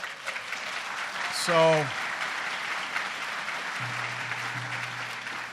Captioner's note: applause